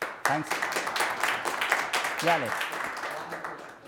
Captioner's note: audience applauding